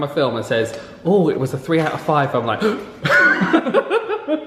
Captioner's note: gasps; laughs